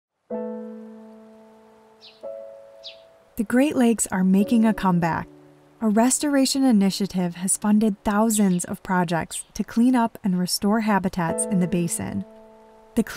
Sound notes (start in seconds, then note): 0.3 gentle music; 0.8 birds chirping